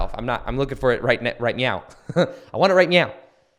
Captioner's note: chuckles